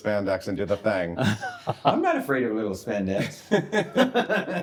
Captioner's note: giggles; guests giggling